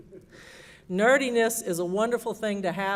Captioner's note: laughter